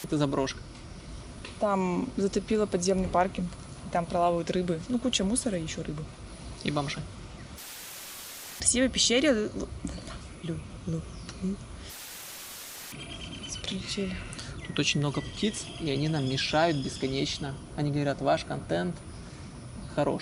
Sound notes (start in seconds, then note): 12.8 birds singing